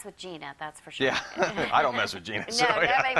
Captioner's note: laughs